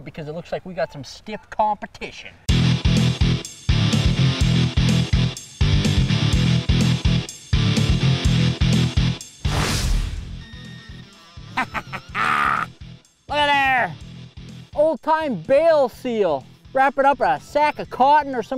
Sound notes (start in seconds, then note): 2.6 energetic music; 9.4 whooshing; 11.2 laughs